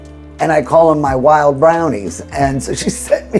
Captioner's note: chuckling